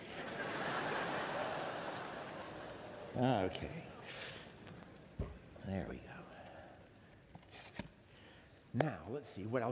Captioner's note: laughter